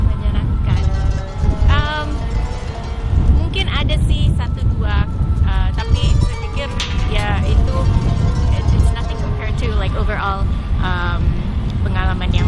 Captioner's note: non-english speech